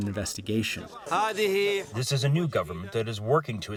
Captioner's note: through translator